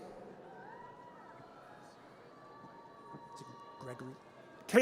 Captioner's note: audience cheers